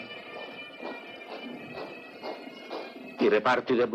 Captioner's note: boots marching